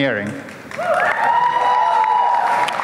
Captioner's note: applause